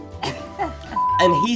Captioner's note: laughs; beep